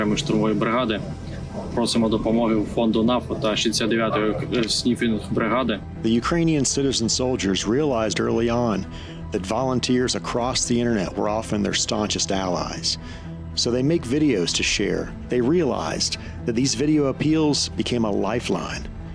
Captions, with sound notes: of the 5th separate assault brigade. We ask the NAFO fund and the 69th Sniffing Brigade for help. [in English] The Ukrainian citizen soldiers realized early on that volunteers across the internet were often their staunchest allies. So they make videos to share. They realized that these video appeals became a lifeline,